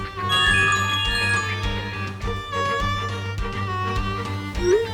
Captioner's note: smart notification chimes